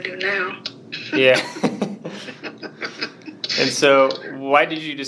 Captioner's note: both chuckle